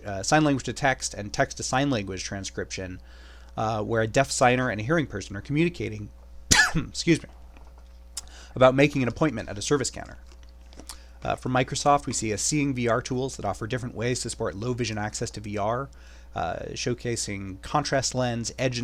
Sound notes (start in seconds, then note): 6.5 coughs